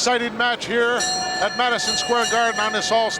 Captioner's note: bell ringing